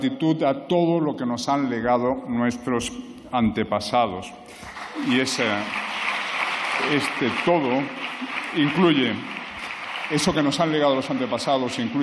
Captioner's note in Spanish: aplausos